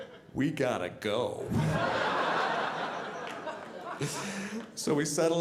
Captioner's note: audience laughing